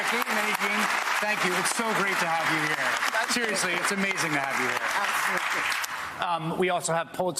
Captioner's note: applause